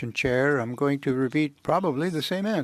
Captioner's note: speaking French